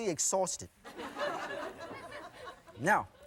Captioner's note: audience laughing